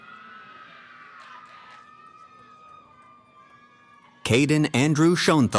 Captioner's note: cheering